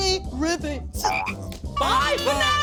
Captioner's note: frog croaks